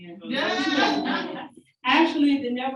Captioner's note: audience members laughing